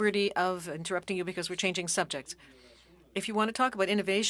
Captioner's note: speaking French